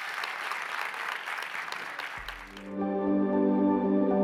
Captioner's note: applauding continues; light music